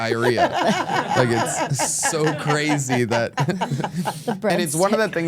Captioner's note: laugh